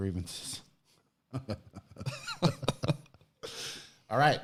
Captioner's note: laughs